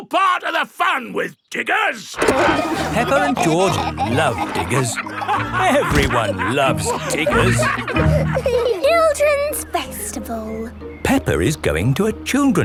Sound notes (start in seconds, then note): 2.8 peppa and george laughing